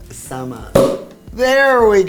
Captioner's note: bottle popping